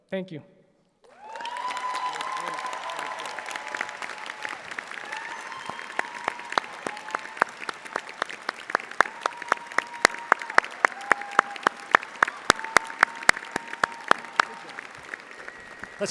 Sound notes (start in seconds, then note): 1.0 audience applauding